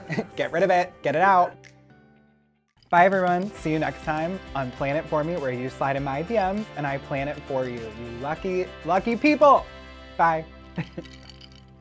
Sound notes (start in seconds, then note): 10.7 laughs